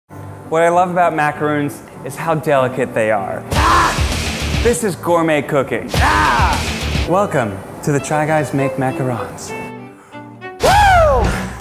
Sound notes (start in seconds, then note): 3.2 yelling; 5.9 yelling; 10.3 yelling; 11.4 upbeat music